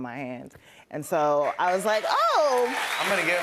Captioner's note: cheers and applause